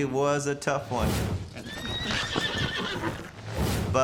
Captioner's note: neighs loudly